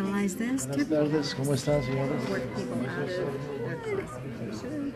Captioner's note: people chattering